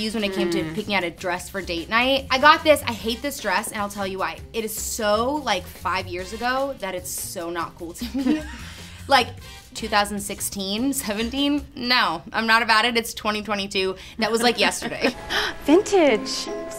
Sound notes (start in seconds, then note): 8.0 laughs